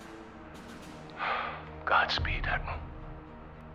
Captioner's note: sigh